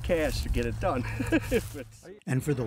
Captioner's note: laughter